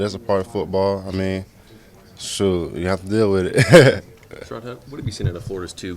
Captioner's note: laughter